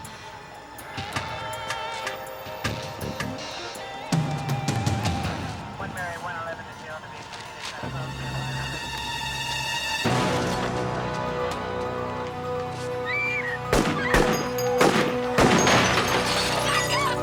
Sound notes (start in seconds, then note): 6.1 radio chatter; 8.6 suspenseful music; 13.0 woman squeals; 13.7 rifle blasting; 13.7 window shattering